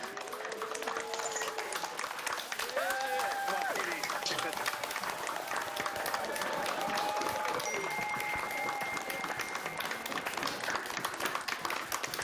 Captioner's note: applause